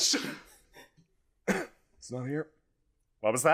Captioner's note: cough